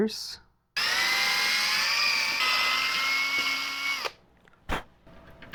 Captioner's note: drilling